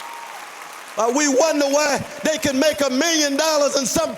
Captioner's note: applause